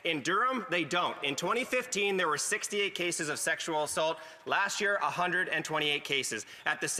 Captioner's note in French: voix de l'interprète